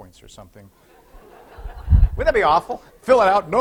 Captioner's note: laughter